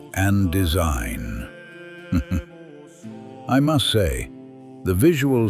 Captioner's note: chuckle